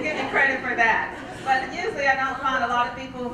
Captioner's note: laugh